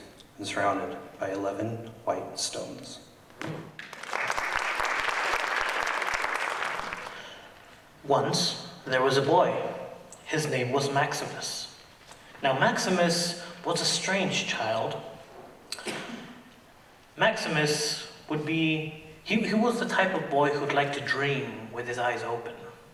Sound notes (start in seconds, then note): 3.7 audience applauding